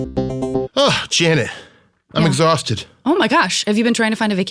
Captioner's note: laughs